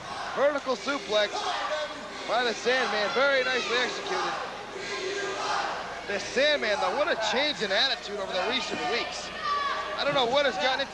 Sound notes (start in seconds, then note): 2.5 crowd cheering